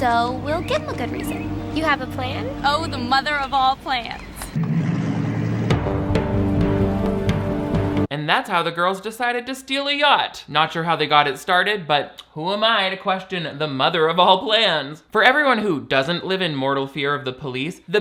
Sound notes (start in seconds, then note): 4.5 boats rumbling; 4.5 intense music